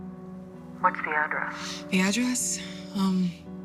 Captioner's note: on phone